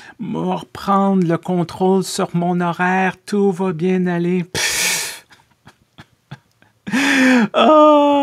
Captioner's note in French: Rires